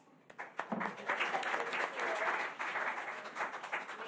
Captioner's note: applause